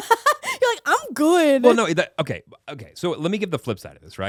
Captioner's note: laughing